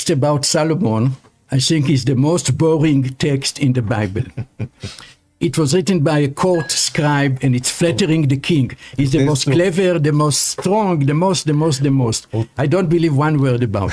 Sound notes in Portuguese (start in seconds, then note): 9.9 risadas